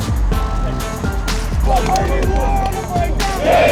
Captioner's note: hip hop music; clapping